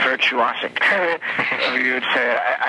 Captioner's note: man laughing